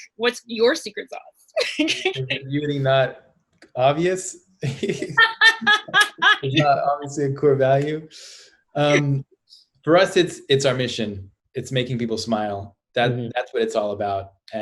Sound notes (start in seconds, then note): 1.6 laughs; 4.6 laughter